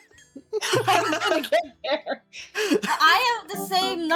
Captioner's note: laughing